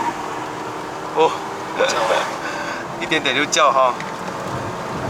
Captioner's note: the tires squawked